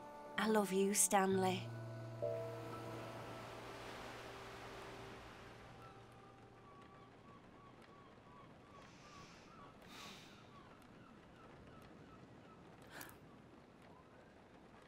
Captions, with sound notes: I love you, Stanley [raining and seagull sounds] [gasps]